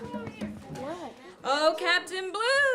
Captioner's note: knocking